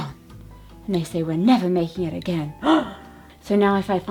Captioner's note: gasps